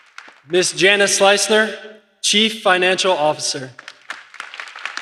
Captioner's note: applause